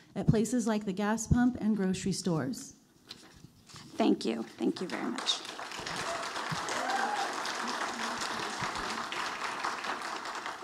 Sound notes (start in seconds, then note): 4.8 audience applauding